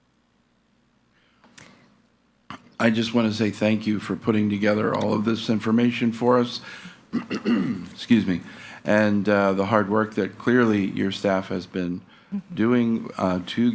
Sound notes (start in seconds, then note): 7.1 clears throat